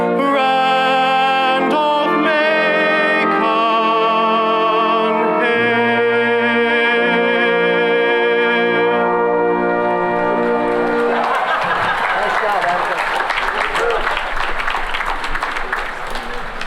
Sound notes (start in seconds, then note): 9.9 cheering and applause